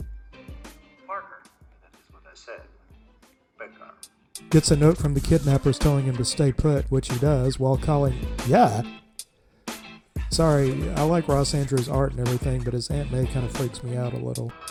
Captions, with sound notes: Parker. That's what I said. "Pecker. get a note from the kidnappers telling him to stay put, which he does, while calling... *GAH!* Sorry, I like Ross Andru's art and everything, but his Aunt May kinda freaks me out a little.